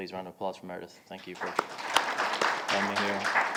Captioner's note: audience applauding